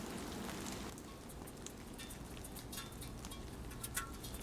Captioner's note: rain falling on metal